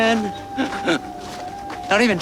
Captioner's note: laughing